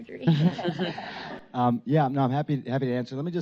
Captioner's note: laugher from Dr. Gupta